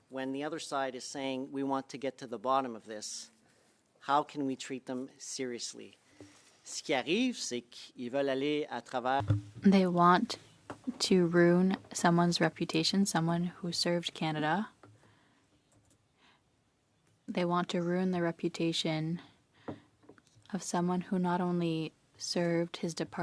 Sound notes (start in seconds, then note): 13.9 speaking French